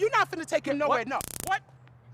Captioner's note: taser buzz